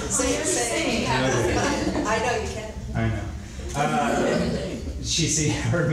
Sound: crowd laughs and tells John to sing

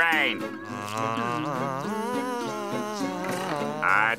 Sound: buzzing

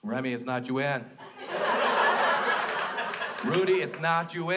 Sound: crowd laughs

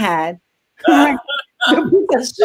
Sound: laughs

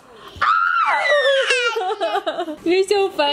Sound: laughing; shrieking; laughing

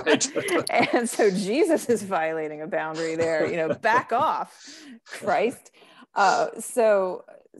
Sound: both laughing

